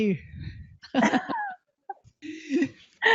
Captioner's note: laughing